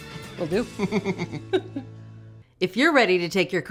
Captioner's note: chuckling